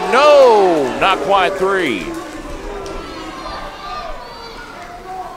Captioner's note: crowd cheering